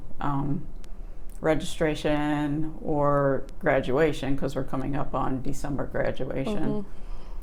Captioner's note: murmurs "mm hmm."